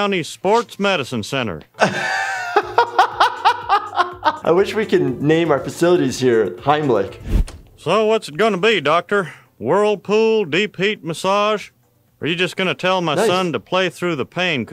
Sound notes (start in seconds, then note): 1.8 laughs